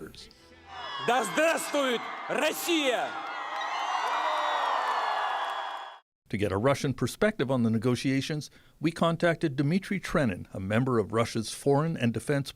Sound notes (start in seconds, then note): 3.9 speaking alternate language; 5.6 cheers and Applause